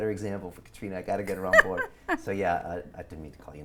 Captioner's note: laughs